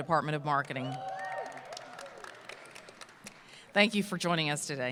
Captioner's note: applause